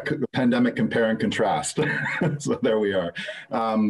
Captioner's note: laughs